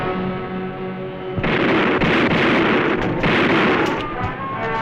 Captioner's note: gunfire